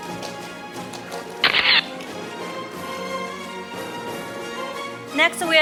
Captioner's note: camera shatters